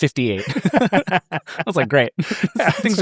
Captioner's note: laugh